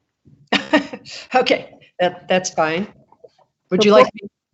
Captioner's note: laughs